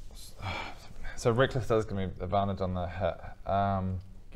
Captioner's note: sigh